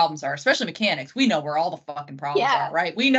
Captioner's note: laughing